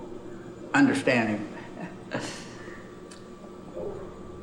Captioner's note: laughs